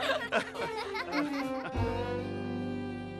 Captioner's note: laughing